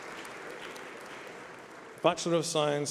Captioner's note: applause